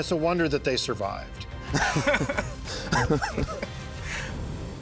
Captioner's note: laughs